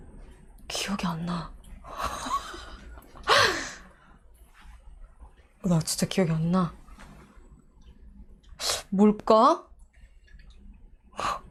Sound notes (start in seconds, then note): 2.0 laughing